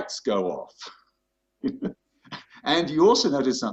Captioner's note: laughter